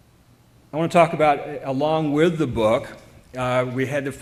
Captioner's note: none